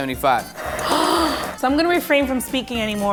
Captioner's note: gasp